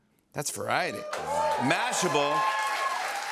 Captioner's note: cheers and applause